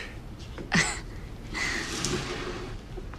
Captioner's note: chuckles